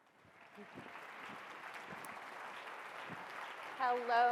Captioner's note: audience cheering